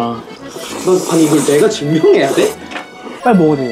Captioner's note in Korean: 후루룩